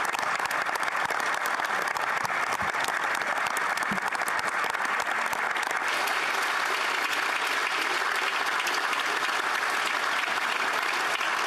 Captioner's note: applause